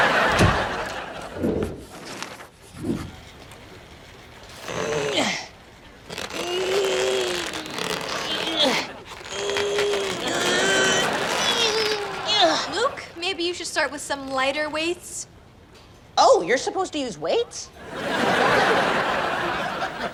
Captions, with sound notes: (grunts) (laughs) - Luke, maybe you should start with some lighter weights. - Oh, you're supposed to use weights? (laughs)